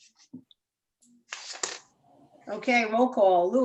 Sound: papers ruffling

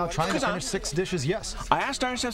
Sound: non-english speech

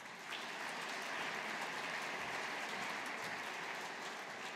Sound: audience applauding

